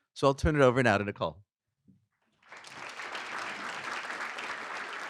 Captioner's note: applause